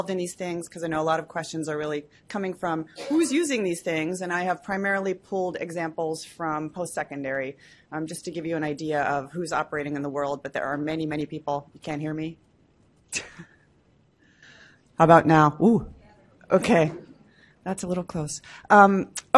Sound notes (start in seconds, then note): 13.5 laughs